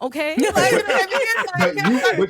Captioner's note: laughing